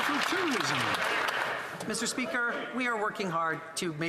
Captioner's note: some Applause